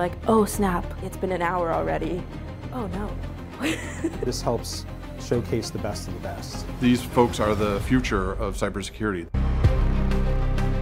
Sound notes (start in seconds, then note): 3.6 laughs; 9.4 upbeat music